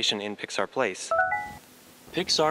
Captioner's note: alert chime from device